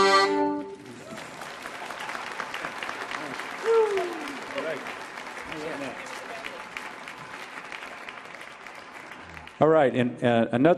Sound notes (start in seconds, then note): 1.1 audience applauding